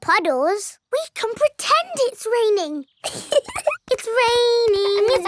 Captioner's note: laughs